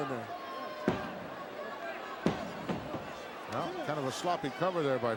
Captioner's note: crowd murmuring; hand slapping